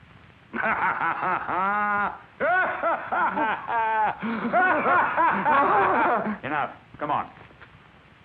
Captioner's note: both laughing